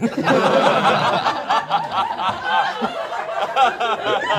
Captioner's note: all laughing